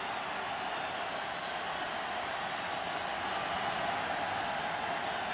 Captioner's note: cheers